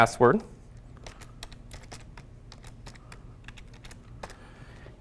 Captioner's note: keyboard clicking